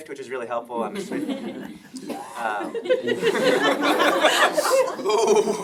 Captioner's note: laughing